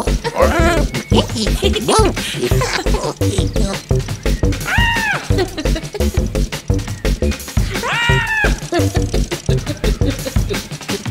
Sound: they both laugh; joyful yelps and giggles as they run

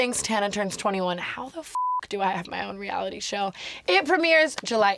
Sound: beep

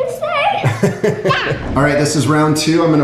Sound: laughs

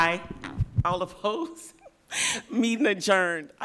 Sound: laugh

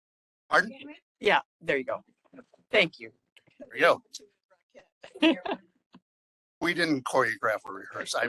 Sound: laughing

